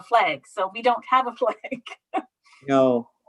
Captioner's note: laughs